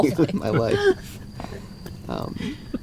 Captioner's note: todos riendo